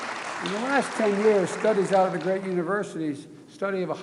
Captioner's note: applause